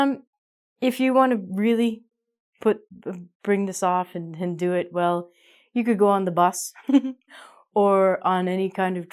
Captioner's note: giggles